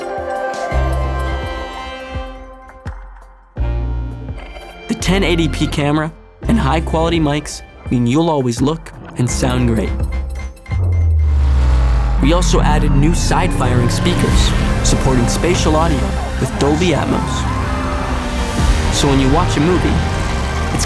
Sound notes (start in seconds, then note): 17.3 engines revving; 17.3 shouting